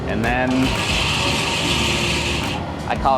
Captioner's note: lobster boil clicking